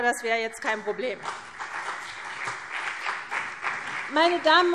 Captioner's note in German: Beifall CDU und BÜNDNIS 90/DIE GRÜNEN